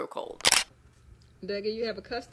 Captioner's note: camera shutter